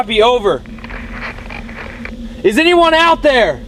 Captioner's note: static on radio